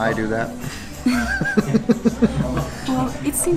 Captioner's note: laughs